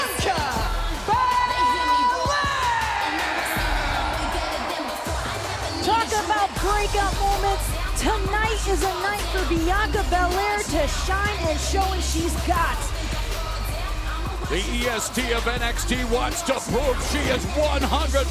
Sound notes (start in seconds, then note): 4.5 crowd cheering